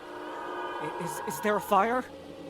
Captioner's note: shriek